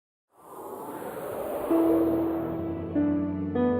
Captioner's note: air whooshing